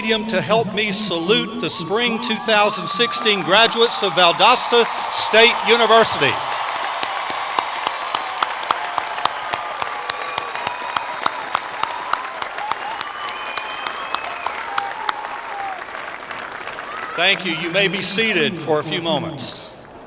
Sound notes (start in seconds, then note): 7.5 cheering and applause